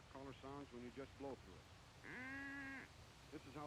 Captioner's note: radio Announcer; duck caller quaking